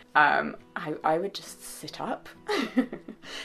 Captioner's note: laughs